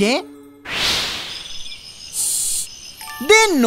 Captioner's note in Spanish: Sonido de grillos